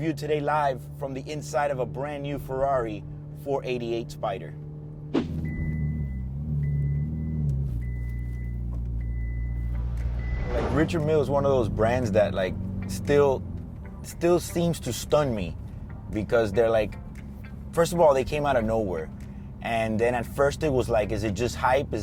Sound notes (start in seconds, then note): 6.8 car sound